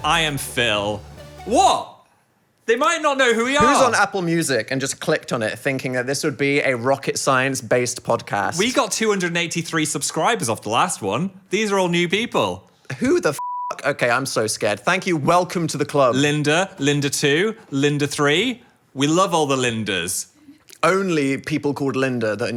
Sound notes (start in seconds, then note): 13.4 beeping